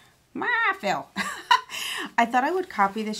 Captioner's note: chuckling